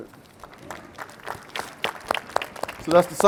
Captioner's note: applause